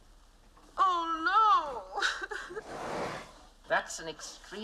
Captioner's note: Плачет